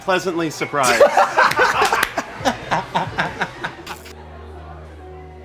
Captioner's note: laughter